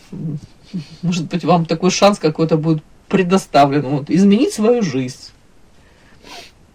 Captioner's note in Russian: фыркает